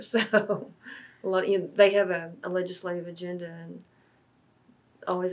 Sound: laughs

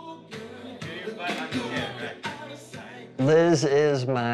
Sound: instructor speaks faintly

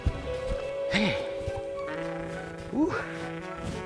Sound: adventurous music; sighs

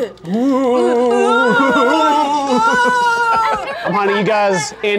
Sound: ghost noises

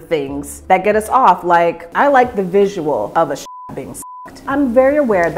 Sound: beeping sound

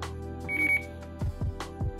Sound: beep

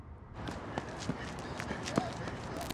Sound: heavy breathing

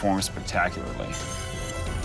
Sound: scraping

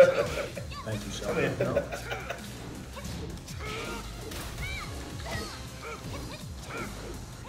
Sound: laugh

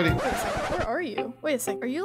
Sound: record scratches

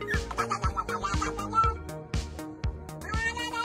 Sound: cat chattering

